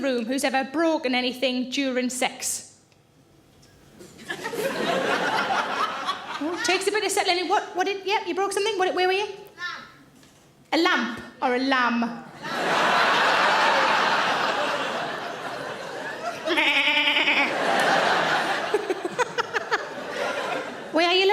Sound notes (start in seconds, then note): 4.1 audience laughing; 14.6 audience laughing; 16.5 imitating lamb baaing; 18.5 all laugh